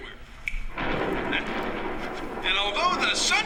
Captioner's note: thunder clap